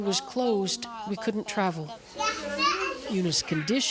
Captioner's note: foreign language